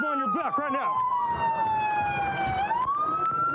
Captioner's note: sirens blaring